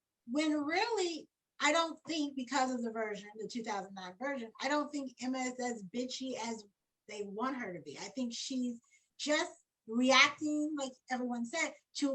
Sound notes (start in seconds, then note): none